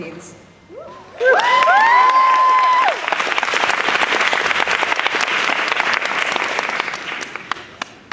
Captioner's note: cheering